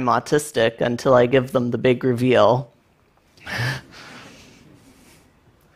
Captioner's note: laughs